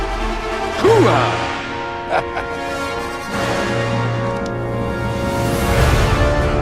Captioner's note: dramatic music; chuckles